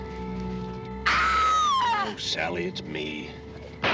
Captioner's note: çığlık atıyor